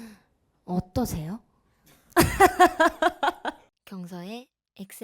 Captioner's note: laughs